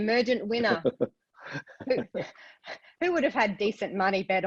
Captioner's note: laugh